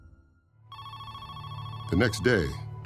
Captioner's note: phone rings